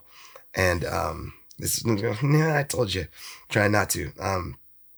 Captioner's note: groans